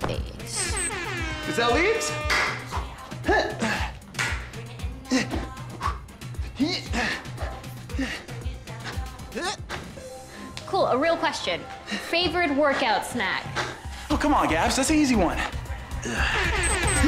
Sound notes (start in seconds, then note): 0.5 alarm ringing; 4.3 dance music; 4.3 groaning